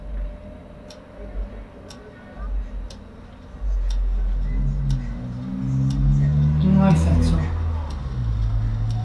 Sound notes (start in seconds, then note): 4.3 loud engine noise